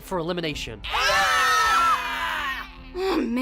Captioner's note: scream